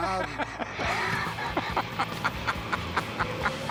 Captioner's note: laughter